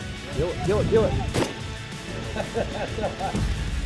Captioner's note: gun Shot; laughing